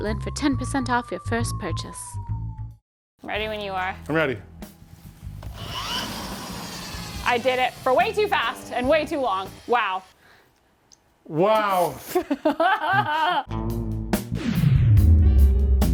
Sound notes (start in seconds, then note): 5.4 power drill whirring; 12.0 laughs